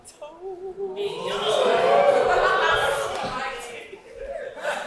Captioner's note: audience cheering